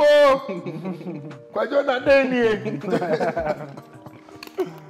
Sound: laughter

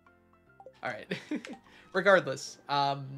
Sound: laughs

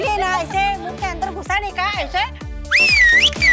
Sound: Asha whistles

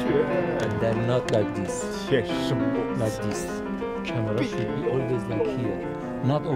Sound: reciting ancient poetry; reciting ancient poetry

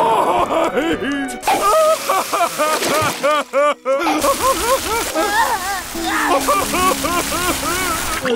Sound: crying

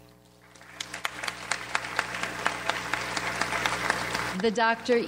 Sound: audience applauds

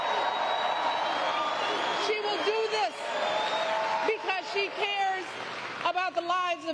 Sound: applause

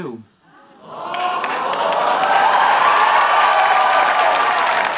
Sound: audience applauding

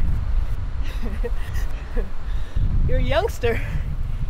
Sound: chuckles

